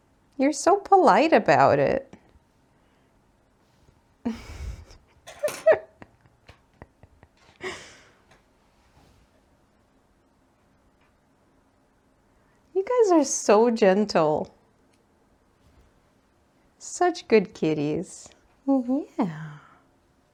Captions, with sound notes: You're so polite about it. [gremlin continues to giggle] You guys are so gentle. Such good kitties! Yeah!